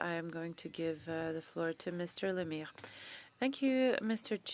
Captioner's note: speaking French